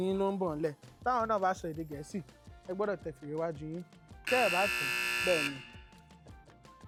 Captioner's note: buzzer pressed